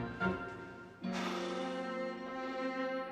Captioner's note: Menghela napas